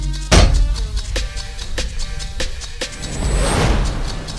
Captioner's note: Queen Serpentine crashes